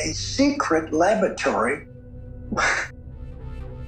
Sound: chuckles

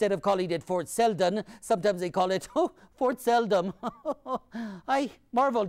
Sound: laughs

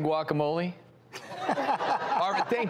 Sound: laughing

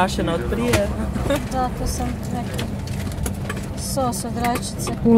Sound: indistinct chatter

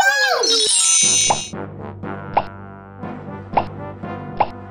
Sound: magic sounds

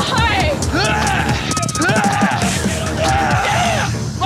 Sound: screams

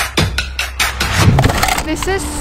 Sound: rhythmic music; cans crashing

